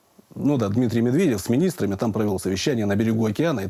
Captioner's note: none